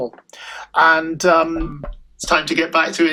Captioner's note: door knock